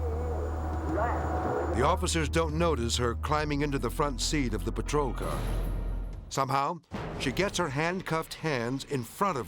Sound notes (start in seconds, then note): 5.0 dramatic whoosh